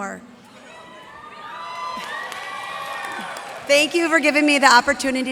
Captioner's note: cheers and applause